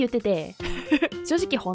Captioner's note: laughing